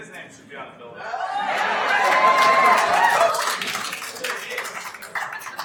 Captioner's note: attendees applauding